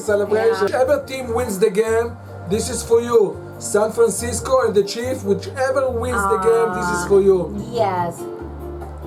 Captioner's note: sweetly